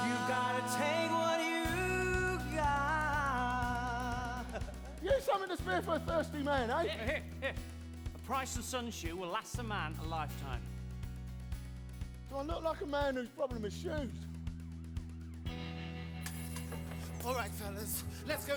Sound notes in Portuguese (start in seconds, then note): 14.0 police siren wailing in distance; 17.1 glass shattering